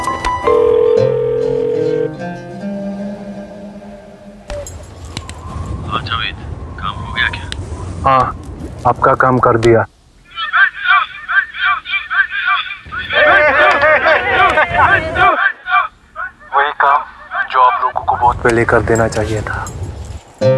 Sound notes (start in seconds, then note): 1.1 intense music; 10.5 crowd cheering